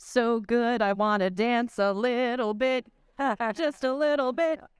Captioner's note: in a sing-song voice